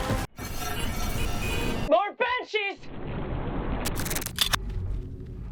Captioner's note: electronic beeping